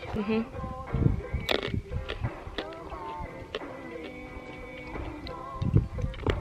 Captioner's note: crunchy sounds while eating